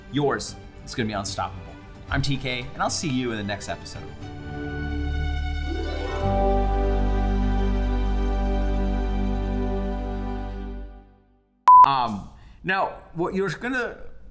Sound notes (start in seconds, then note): 5.6 upbeat music; 11.6 beep